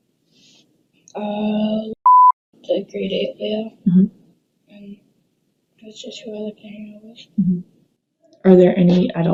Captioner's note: beep